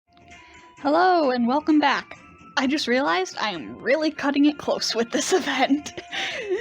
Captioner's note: laughs